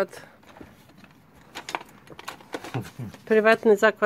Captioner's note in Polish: Odgłosy odkładanych narzędzi